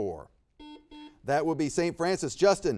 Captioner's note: buzzer beeps